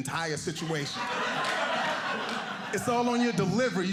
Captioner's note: audience laughing